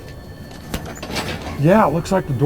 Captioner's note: door opens